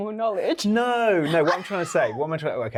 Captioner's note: Yerin laughing